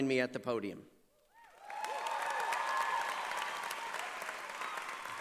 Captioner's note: cheering and applause